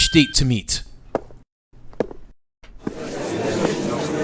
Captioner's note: footsteps; gallery chattering